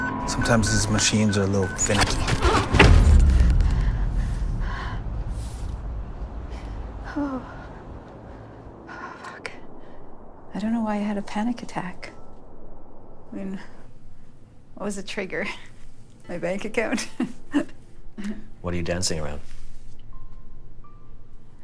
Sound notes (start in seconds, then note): 2.7 abstract squeak, impact; 4.6 panicked breathing, gulp; 7.0 under her breath; 17.3 laughing, weakly